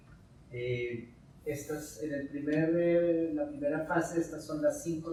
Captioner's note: speaking in Spanish